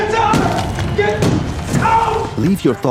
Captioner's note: wall smashes